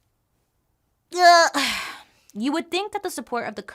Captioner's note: groans and sighs